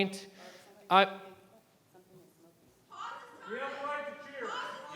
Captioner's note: public interjecting